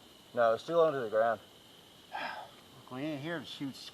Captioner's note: sigh